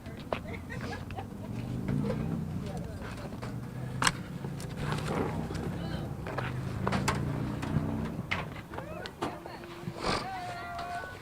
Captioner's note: laughter